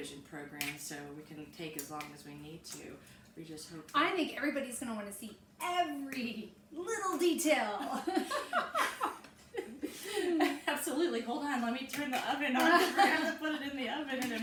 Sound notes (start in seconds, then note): 7.9 both laughing; 7.9 chuckles